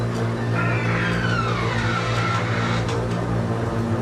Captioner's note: ominous music; door creaks